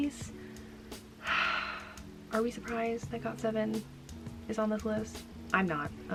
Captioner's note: sighs